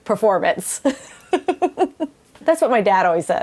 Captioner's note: chuckles